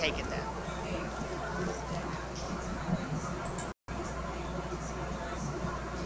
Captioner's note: interviewer speaks away from mic